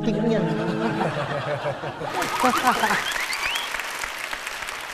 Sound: laughs; audiences applause; claps

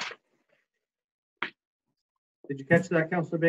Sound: paper shuffling

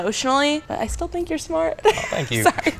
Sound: laughing

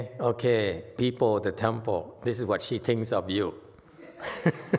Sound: laughs

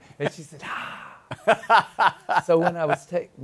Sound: laughs

